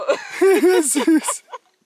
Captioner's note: both laughing